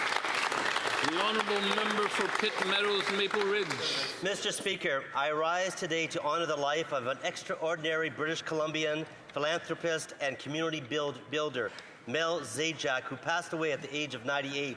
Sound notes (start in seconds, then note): 4.1 some Applause